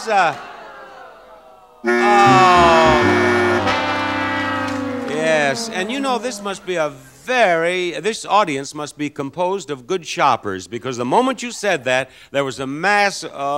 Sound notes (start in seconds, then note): 0.2 audience groans; 1.8 buzzer blares